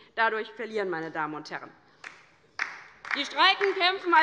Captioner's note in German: Beifall bei der LINKEN und der SPD